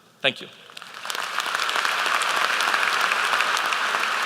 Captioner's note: applause